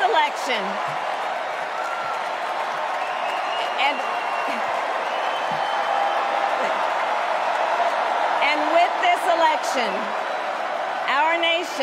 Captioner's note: cheers and applause